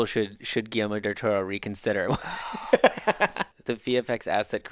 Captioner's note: laughing